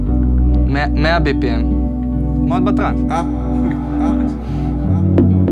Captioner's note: laughs